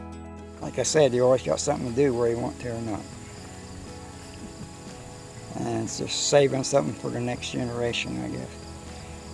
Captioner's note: laugh